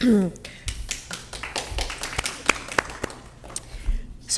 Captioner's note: all clapping